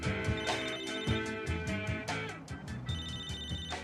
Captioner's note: phone ringing